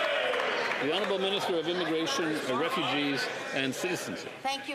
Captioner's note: some Applause